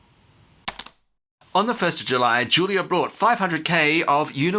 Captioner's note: click